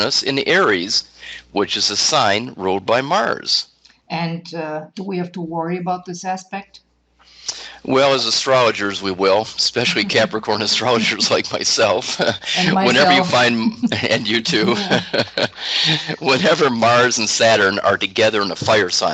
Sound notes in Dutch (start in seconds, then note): 14.3 lachen